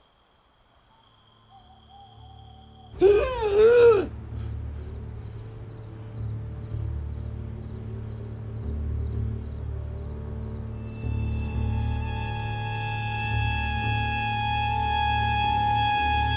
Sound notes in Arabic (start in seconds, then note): 3.0 يتنهد; 3.1 موسيقى مشؤومة